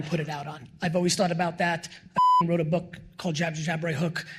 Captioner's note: beep